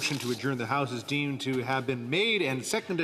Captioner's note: speaking French